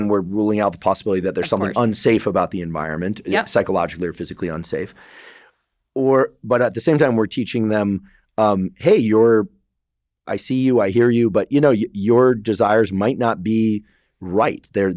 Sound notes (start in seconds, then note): 4.9 inhales